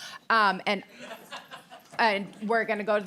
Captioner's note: laughter